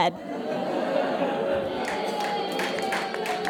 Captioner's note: audience boos and jeers; scattered applause